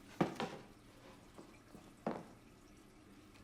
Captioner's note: panel thuds